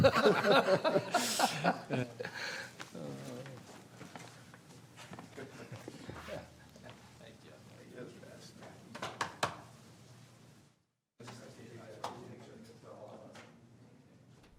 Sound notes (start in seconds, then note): 0.0 laughter; 6.3 laughter